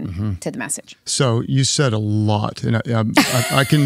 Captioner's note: laughs